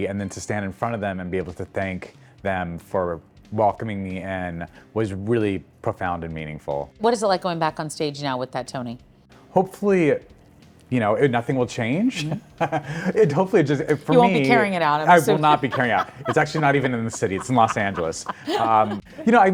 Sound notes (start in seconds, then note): 13.7 laughing happily; 13.8 laughing